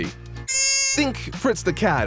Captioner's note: squeek